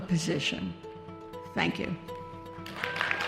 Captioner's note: cheers and applause